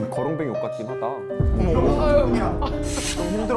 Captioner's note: sighs from the crowd